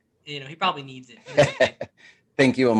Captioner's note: laughter